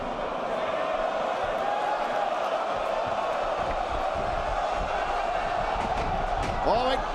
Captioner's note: crowd chatter